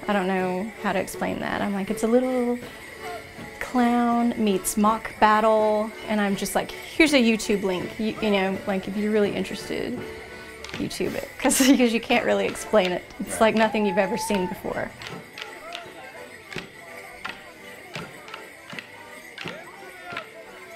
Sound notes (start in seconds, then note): 14.9 sticks clacking; 15.6 lively music; 17.7 bells jingling